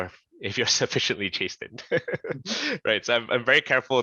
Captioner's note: shared laughter